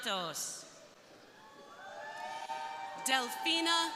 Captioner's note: crowd cheering